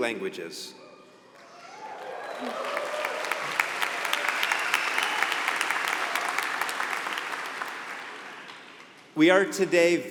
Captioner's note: applause